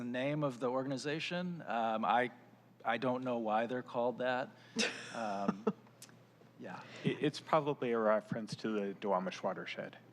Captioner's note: laughter